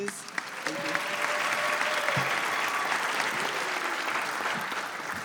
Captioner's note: applause